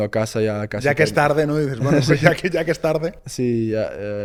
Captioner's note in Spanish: risas